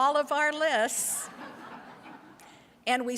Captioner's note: audience laughs